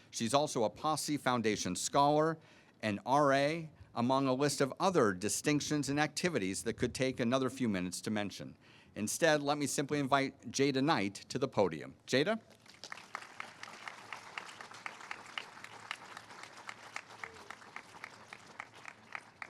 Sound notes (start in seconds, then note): 12.5 all applauding